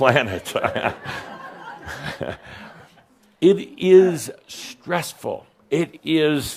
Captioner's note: chuckles from Adamus and audience